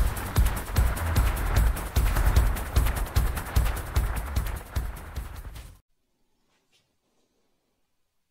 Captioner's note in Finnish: Aplodeja